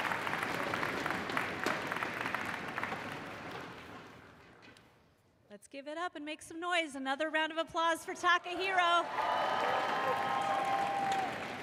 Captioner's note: cheers and applause